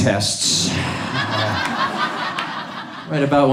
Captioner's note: audience laughs